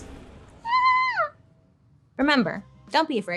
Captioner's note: screeches